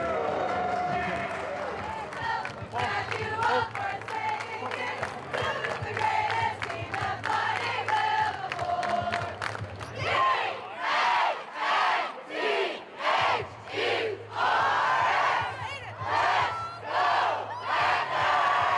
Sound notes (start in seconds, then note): 2.4 school cheering